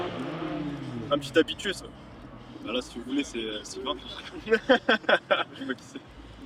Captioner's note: laughter